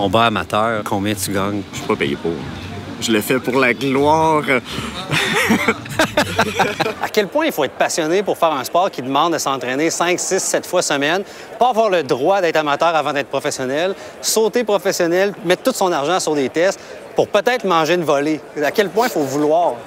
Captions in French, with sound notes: - Toi, pour un combat amateur, combien tu gagnes? - Je ne suis pas payé pour. Je le fais pour la gloire! (rires) - À quel point il faut être passionné pour faire un sport qui demande à s'entraîner cinq, six, sept fois/semaine, pas avoir le droit d'être amateur avant d'être professionnel, sauter professionnel, mettre tout son argent sur les tests pour peut-être manger une volée?